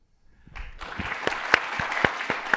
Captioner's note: applause